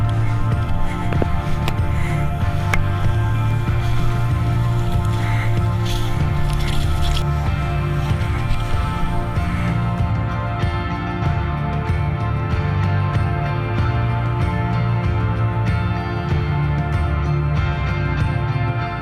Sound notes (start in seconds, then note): 1.1 heavy breathing; 4.8 slow music